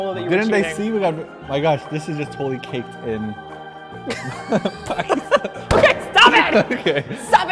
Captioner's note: both laughing